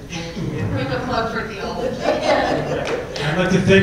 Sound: laugh

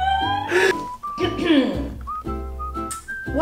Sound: clears throat

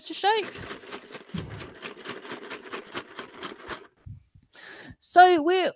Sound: shaking noise

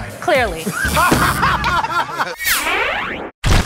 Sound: laughter

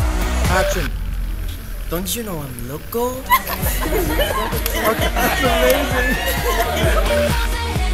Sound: laughs

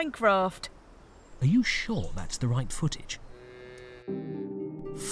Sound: cow moos

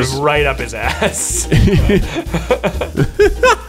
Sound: laughter

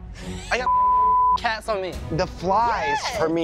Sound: laughter; beep

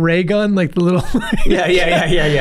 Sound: Charlie laughing

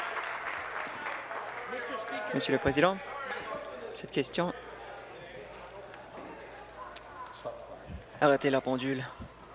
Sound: applause

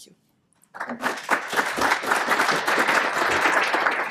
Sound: applause

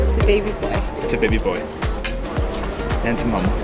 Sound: glasses clinking

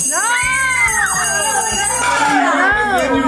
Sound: bell ringing

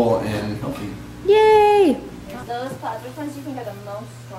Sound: cheers

